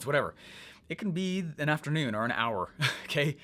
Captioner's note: laughs